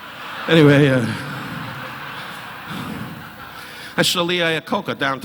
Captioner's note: audience laughing